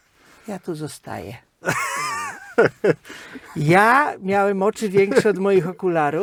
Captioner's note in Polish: śmiech